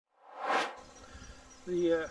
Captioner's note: air swooshes